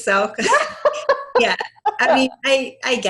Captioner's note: laughs